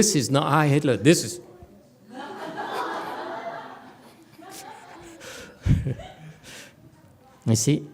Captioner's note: audience laughs